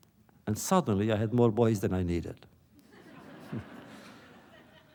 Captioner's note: laughter